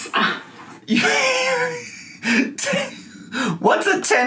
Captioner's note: wheezing